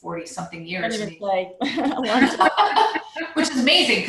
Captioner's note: murmur